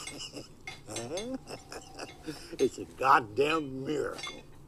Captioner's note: kisses, Chortling